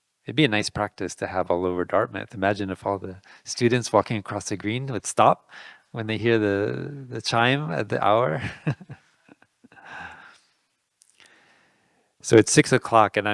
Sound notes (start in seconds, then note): 9.1 laughing